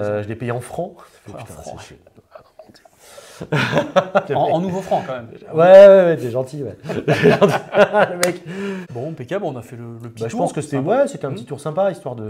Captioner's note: laughs